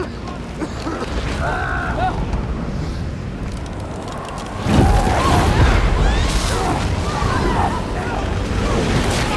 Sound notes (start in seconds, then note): 0.5 john coughing; 4.6 screaming; 4.8 wind howling